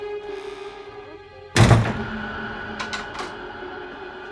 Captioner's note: door slams